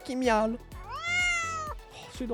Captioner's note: meow